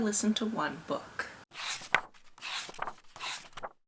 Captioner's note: pages turning